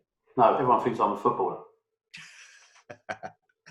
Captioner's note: murmurs; laughs